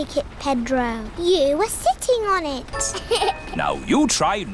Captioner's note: laughs